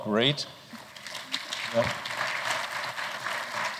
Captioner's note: applause